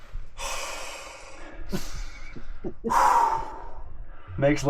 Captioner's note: breathes; chuckles